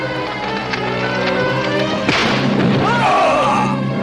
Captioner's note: groans